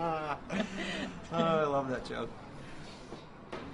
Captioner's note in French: Rires